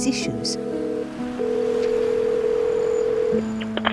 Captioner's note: phone rings